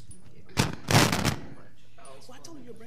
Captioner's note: microphone crackling